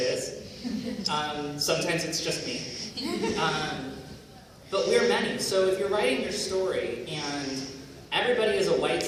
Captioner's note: laughter